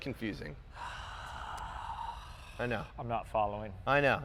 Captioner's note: sighs